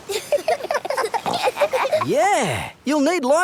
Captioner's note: giggling